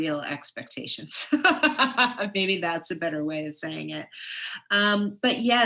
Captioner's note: laughs